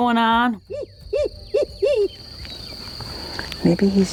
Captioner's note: hoppy owl hooting